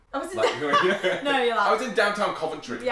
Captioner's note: both laugh